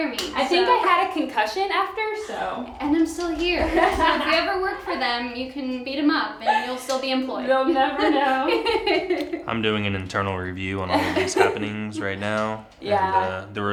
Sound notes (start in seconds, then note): 3.8 laughs; 8.7 laughs